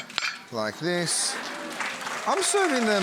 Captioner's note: audience applauding